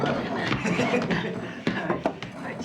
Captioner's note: Joe chuckling